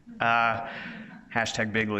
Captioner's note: audience members laughs